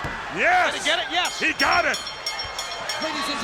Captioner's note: bell ringing